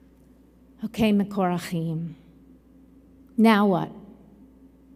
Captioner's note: in Hebrew